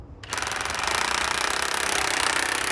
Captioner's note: drilling